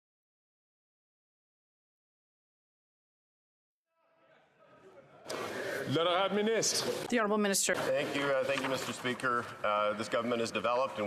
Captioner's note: some Applause